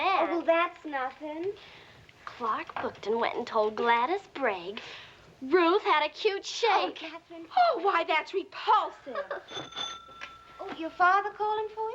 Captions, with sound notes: OH, WELL, THAT'S NOTHING. CLARK BOOKTON WENT AND TOLD GLADYS BAIN RUTH HAD A CUTE SHAPE. OH, KATHERINE! OH, WHY, THAT'S REPULSIVE! [DOORBELL RINGS] YOUR FATHER CALLING FOR YOU?